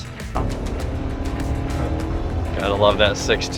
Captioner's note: engine rumbles